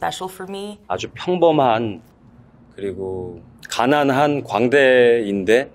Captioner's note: speaking in foreign language